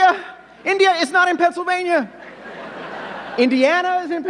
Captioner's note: audience laughing